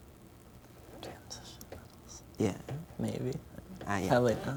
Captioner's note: whispering